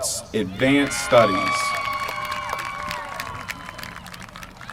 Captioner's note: applause